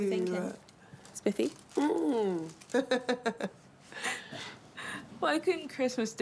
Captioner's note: laughs